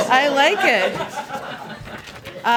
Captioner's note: laughter